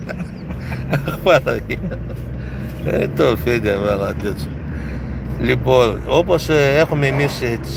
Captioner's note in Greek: γέλια